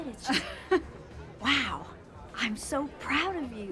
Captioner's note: chuckles